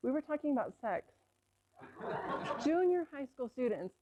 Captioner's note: laughter